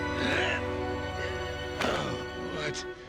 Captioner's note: groaning